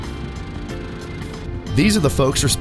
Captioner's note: machine running